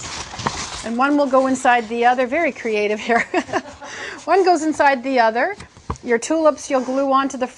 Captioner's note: laughing